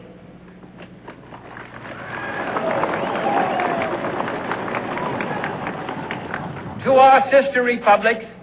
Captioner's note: applause